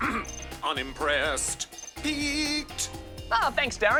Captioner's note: emoji noises